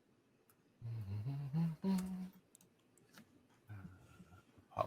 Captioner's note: DM humming